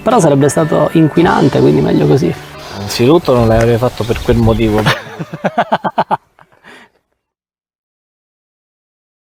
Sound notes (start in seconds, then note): 4.8 laughter